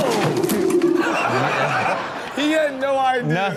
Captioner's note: dinosaur roars; man falls; audience laughs